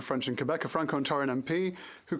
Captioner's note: speaking French